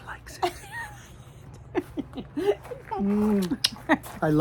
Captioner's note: laughing